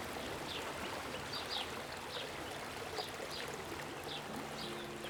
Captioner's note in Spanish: Agua chorreando y fluiendo